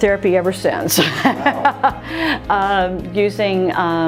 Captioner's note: laughs